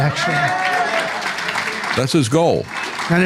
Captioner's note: audience Applauding